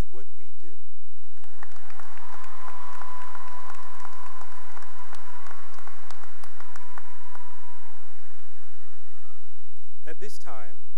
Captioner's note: cheering and applause